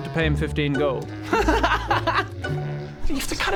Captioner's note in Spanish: risa inocente